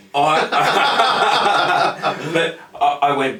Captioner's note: laugh loudly